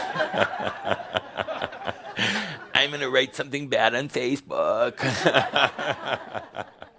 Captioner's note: laughter